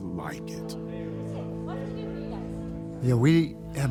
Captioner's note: chatter